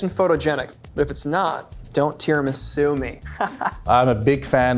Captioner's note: laughs